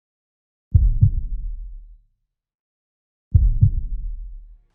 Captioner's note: heart beating